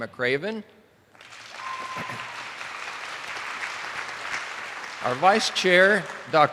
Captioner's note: attendees applauding